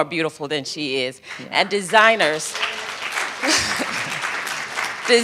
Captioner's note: applause